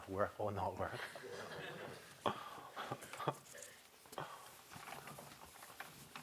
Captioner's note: laughter